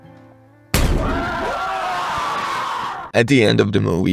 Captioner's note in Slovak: aaaaaaaaa